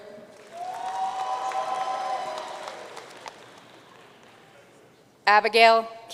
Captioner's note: audience cheering and applauding